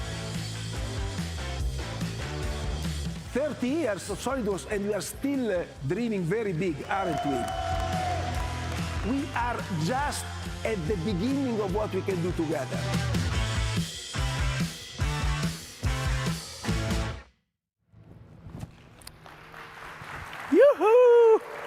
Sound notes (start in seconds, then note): 0.3 upbeat music; 6.6 audience clapping and cheering; 14.3 upbeat music; 18.8 audience clapping